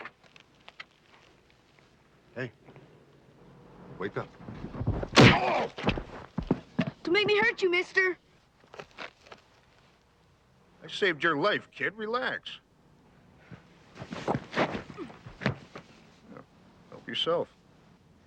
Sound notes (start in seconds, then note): 4.9 blow thuds; 5.1 Jim groans